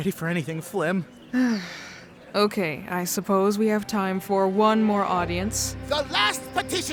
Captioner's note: sigh